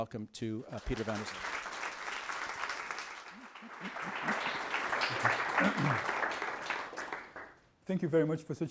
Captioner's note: applause